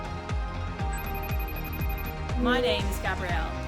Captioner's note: phone rings